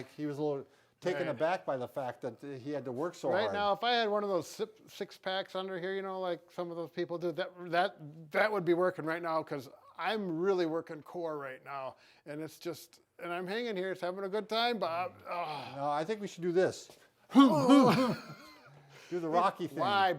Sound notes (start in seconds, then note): 15.2 exhales loudly; 17.3 both laughing